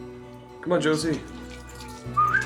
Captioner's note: whistles